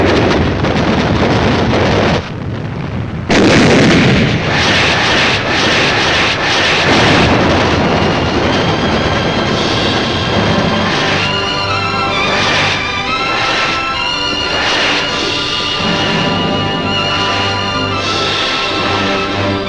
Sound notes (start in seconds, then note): 5.1 rockets firing; 10.0 dramatic patriotic music